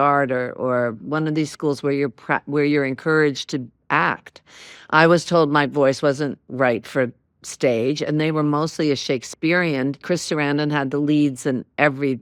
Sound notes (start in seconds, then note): none